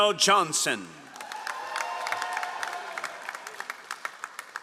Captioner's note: all applauding